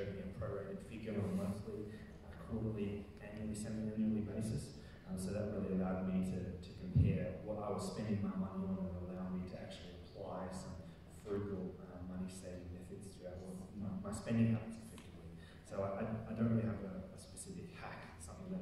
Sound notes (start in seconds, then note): none